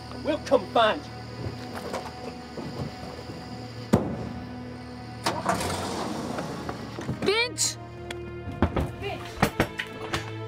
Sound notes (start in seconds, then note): 2.6 dramatic music; 5.1 car engine revving; 8.4 door knocking